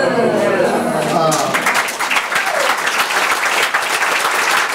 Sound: overlapping chattering; audience applauds

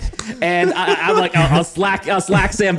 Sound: laughing

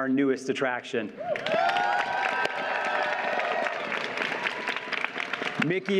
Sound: audience cheers and applauds

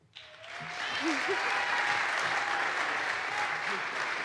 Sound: audience applauds

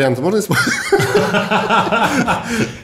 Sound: both laughing

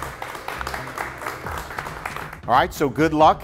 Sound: clapping

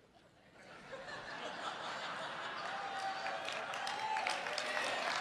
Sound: audience laughs and cheers

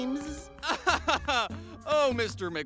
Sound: laughs

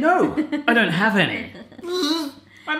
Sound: laughing

